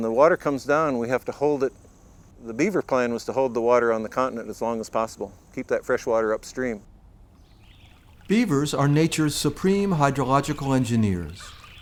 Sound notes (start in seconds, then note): 1.9 birds chirping; 1.9 insects buzzing